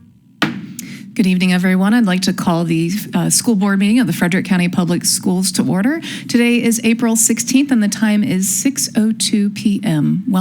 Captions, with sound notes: (gavel thuds) - Good evening everyone. I'd like to call the school board meeting of the Frederick County Public Schools to order. Today is April 16th and the time is 6:02 pm.